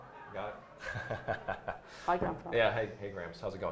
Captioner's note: laughs